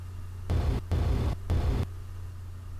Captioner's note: static